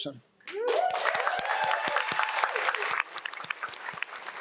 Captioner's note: audience applauds